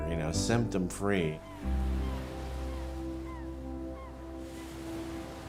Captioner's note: birds chirping